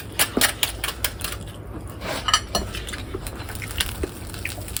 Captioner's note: scraping burnt bread